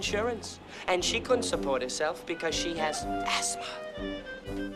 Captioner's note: whispers